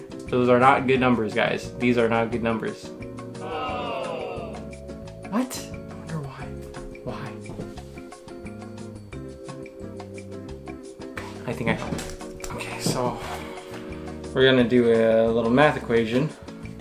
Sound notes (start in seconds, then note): 3.4 crowd sad awh